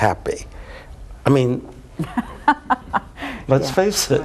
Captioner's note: laughs